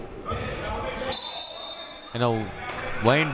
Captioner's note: whistle